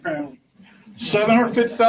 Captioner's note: laughs